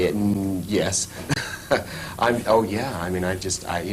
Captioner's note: laughs